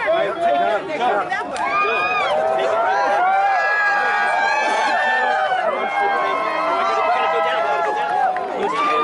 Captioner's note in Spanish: emoción de la multitud!